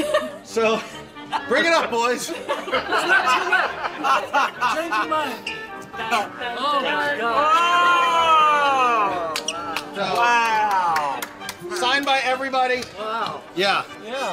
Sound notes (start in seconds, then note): 2.2 laughter; 7.3 all exclaim in surprise